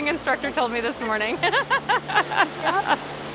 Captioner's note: laughs